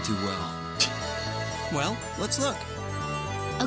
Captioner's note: scoffs